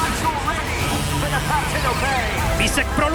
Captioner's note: Kart sound